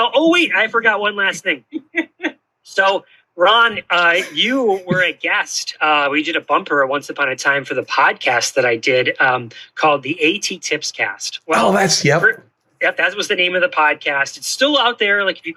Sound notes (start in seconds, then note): 1.5 laughter